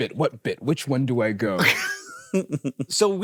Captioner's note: laughs